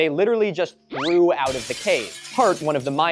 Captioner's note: glass breaking